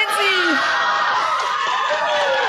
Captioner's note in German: lauter Jubel